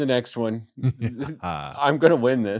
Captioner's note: evil laughter